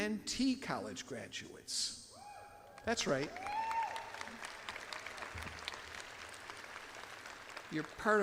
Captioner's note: audience applauds and claps